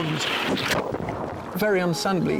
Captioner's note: water gurgling